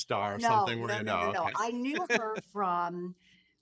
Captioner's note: laughing